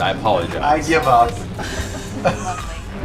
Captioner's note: sighs